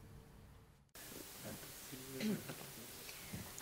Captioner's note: chattering